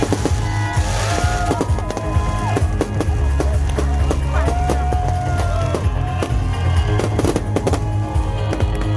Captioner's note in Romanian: Aplauze